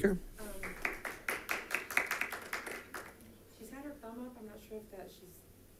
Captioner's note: members clapping